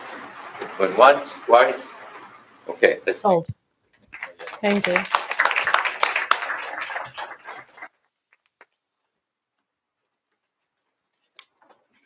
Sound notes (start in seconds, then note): 5.7 applause